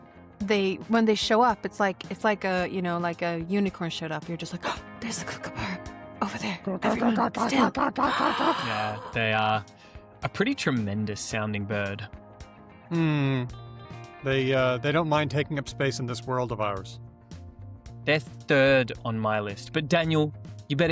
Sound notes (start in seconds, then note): 5.3 gasps; 6.8 makes kookaburra sounds